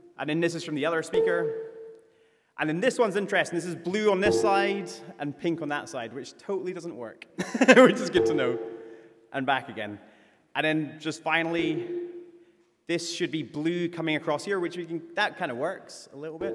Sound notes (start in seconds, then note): 7.9 tones played